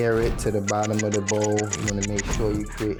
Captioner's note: clock ticks